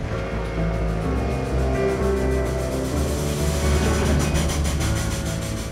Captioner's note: whistling, wheels churning